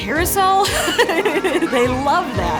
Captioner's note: laughing